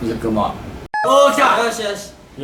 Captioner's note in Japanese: ピンポーン